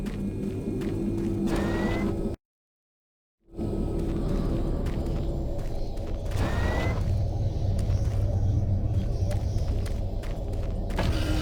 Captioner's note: beeping